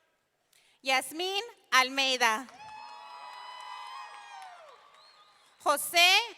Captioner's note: audience cheering